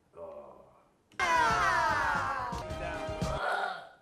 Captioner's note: cheering